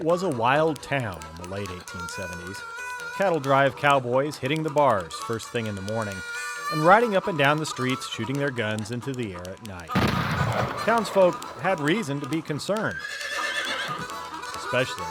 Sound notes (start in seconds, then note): 9.9 gun fires; 12.9 horse whinnies